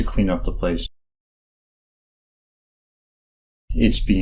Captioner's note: silence